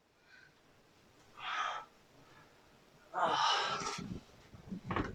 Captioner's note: painful grunts